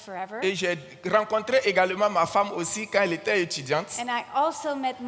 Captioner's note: continues in French